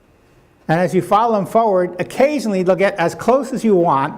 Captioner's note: none